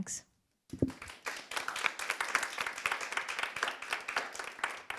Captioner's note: audience applauding